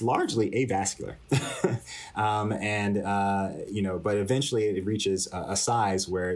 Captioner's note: laughter